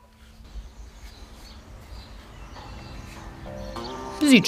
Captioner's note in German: Vogelzwitschern